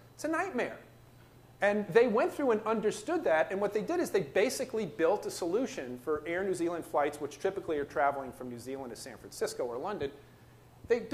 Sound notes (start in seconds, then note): none